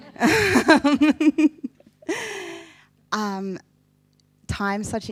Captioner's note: person laughing